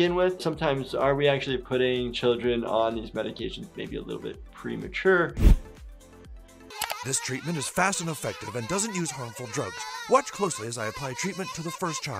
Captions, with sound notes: Sometimes are we actually putting children on these medications maybe a little bit premature? (background mouse clicking) - This treatment is fast, and effective, and doesn't use harmful drugs. Watch closely as I apply treatment to the first child.